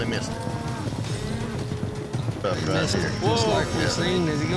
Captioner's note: hoofbeats